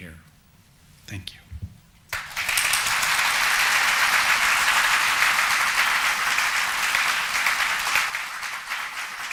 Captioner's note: audience applauding